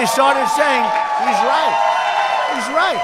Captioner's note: applause